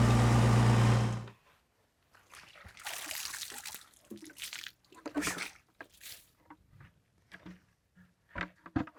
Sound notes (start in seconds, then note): 3.9 water splashes